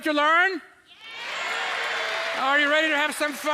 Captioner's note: audience cheering